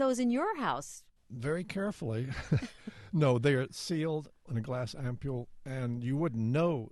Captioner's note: chuckle